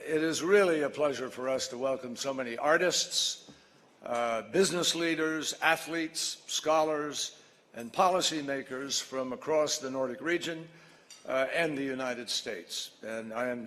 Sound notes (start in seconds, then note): none